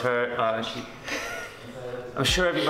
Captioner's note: laughs